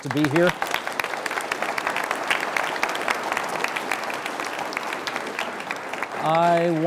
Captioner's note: applauding